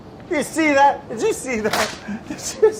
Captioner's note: chuckles